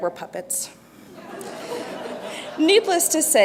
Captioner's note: laughter